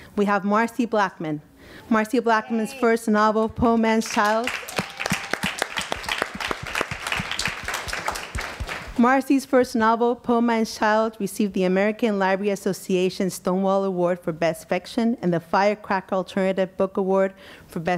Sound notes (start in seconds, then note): 4.1 audience applause